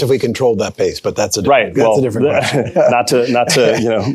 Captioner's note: laughs